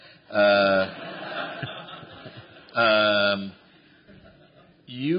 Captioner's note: laughter